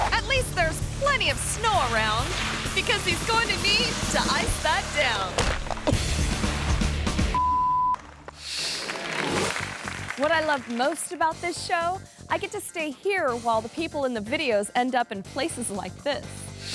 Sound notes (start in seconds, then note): 5.4 thuds